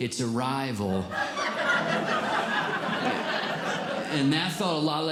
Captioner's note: audience Laughing